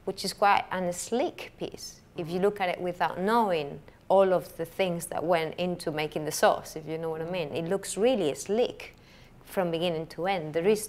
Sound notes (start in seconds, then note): none